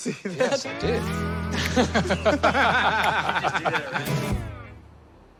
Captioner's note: laughter